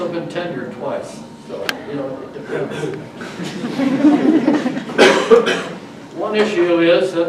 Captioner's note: audience laughs